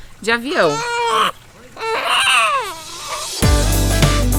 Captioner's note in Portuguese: bebê chorando